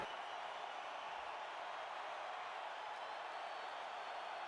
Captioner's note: crowd cheering